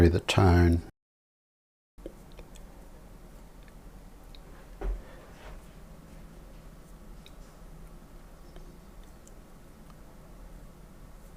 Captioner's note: silence